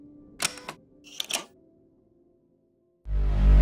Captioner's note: clicking sound; tense music